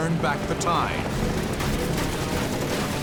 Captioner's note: gunfire